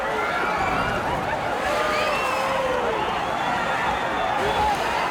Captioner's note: crowd cheers and screams